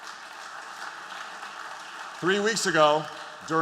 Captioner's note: applause